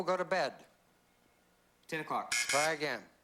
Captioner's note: buzz buzz